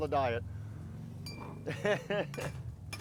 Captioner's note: laughing